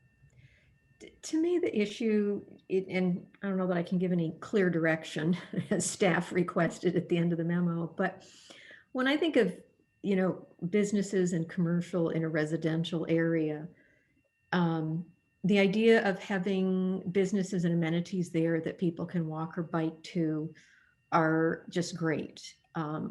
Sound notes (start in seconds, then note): 5.1 laughter